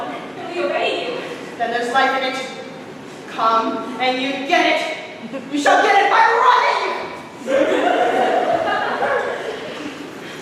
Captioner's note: scattered laughter